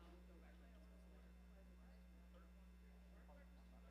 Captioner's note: crowd chatter